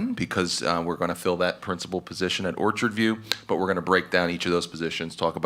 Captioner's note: none